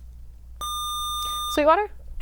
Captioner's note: buzzer